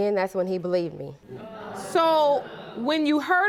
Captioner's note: audience murmuring